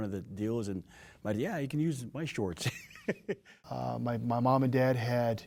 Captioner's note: chuckling